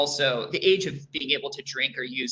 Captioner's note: none